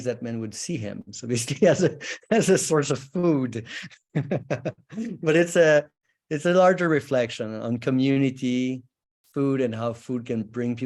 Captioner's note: chuckles